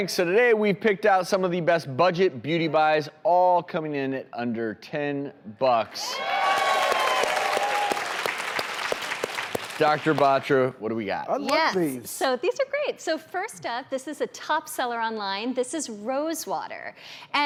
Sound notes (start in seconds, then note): 6.2 applause